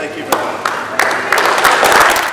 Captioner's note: applause